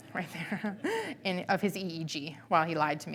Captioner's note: laughing